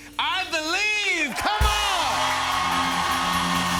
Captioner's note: cheers and applause